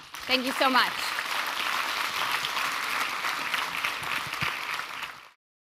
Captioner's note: applause